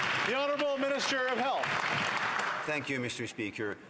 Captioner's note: some Applause